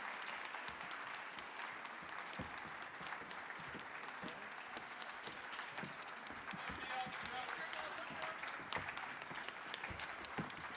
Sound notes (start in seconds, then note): 4.1 people chattering; 6.4 audience clapping and chattering